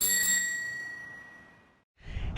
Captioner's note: bike bell rings